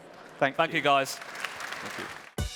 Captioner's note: applause